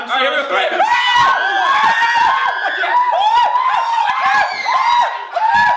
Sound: group screams; screams

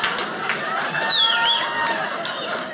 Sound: audience laughing; woman whistles

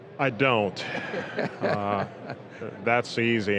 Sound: laughing

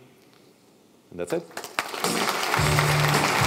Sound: applause

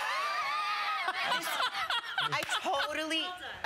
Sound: laughing

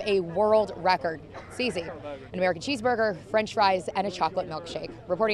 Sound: laughs

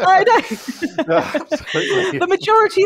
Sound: laughter

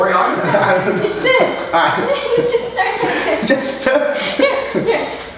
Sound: laughs

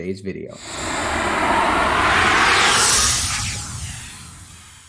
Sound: air whooshing

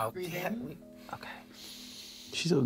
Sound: inhales

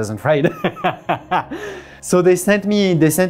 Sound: laughs

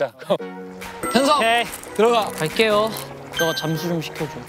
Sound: the water is boiling

